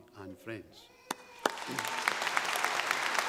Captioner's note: clapping